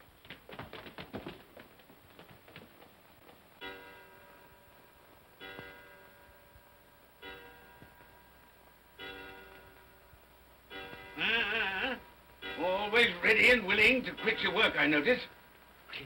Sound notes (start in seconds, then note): 0.0 feet scrambling; 3.3 clock chimes; 11.2 Scrooge grumbles